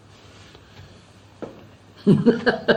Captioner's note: laughs